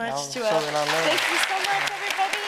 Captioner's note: audience applauding